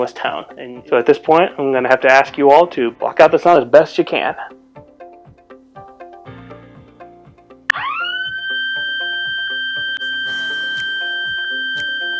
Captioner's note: siren goes off